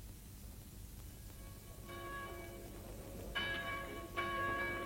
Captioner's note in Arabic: أجراس الكنيسة تدق